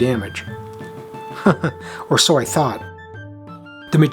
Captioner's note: chuckles